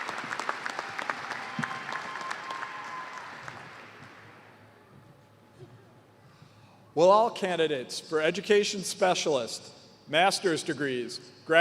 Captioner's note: cheers and applause